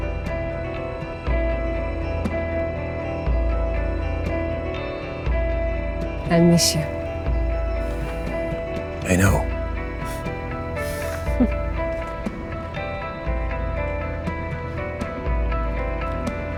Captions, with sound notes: - I'll miss you. - I know. (Megan laughing) (gentle upbeat music)